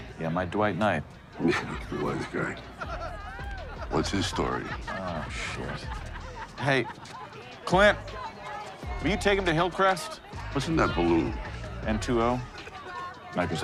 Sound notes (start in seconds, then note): 1.7 laughs